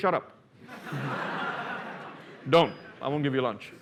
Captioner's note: laughter